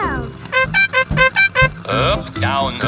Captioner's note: horn beeping